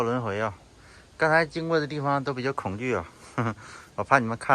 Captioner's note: 哈哈